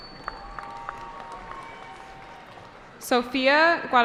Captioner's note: cheering